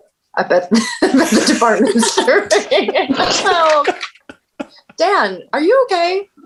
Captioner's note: laughing